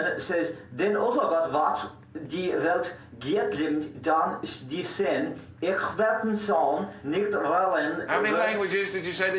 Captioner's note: foreign Language Spoken